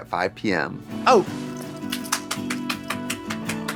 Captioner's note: Trixie claps